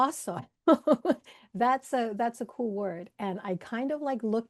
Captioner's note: laughs